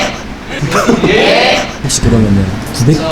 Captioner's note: haha